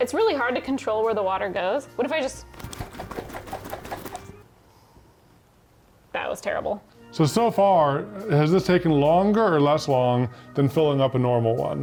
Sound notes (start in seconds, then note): 2.5 water shaking